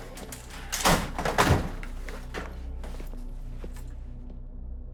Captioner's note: none